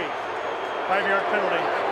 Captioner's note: booing